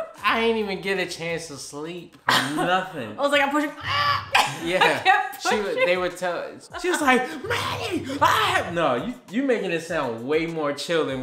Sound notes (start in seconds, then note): 3.8 grunts; 3.8 laughs